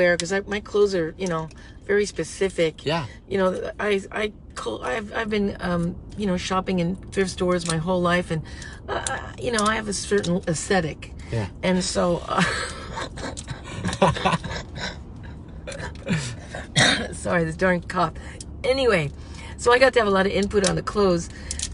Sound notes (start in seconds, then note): 12.4 laughs; 13.9 coughs